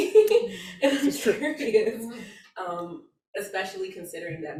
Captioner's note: audience member laughs